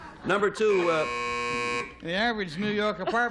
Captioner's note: buzzer